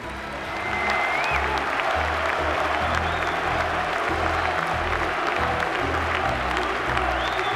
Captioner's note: audience applauding; audience cheering